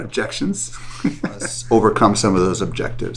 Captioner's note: laughs